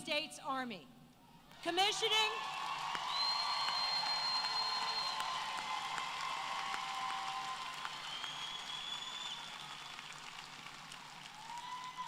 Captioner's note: applause